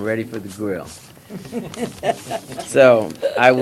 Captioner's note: laughter